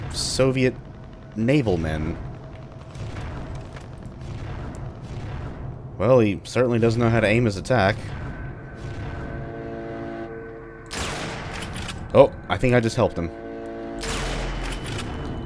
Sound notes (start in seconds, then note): 0.0 radio chatter, red shadow balls humming; 0.0 helicopter/machine gun noises